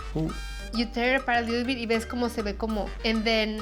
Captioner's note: speaking Spanish